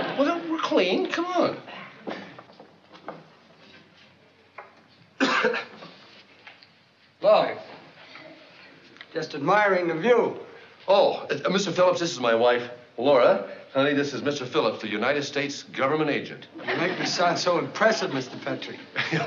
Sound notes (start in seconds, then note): 5.2 coughing